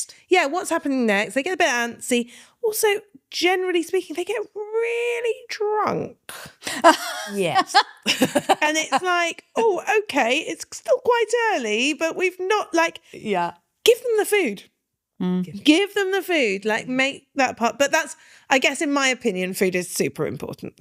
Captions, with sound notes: Yeah, what's happening next? They get a bit antsy. Also, generally speaking, they get really drunk. (laughing) Yes. (laughing) And it's like, oh, okay, it's still quite early, but we've not like, give them the food. Give them the food, like make that part. I guess in my opinion, food is super important.